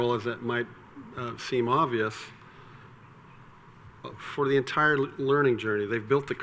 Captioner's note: none